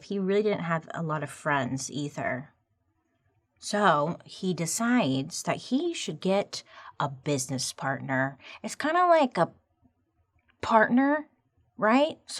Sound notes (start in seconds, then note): none